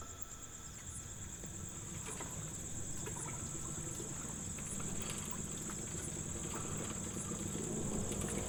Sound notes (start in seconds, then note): 2.6 motorbike passing